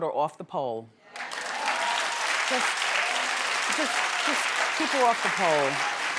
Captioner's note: audience clapping